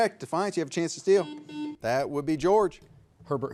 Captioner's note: buzzer beeps